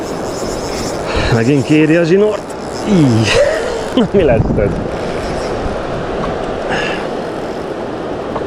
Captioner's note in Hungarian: nevetés